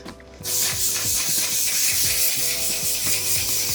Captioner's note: bottle spraying